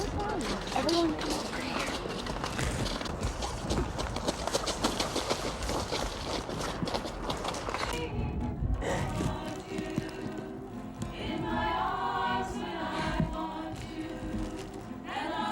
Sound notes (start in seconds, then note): 0.1 whispering; 3.8 sound of footsteps in snow; 7.5 ♫ group sings ♫